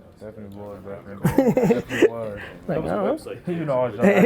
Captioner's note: laughs